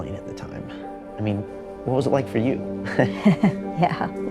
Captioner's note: laughs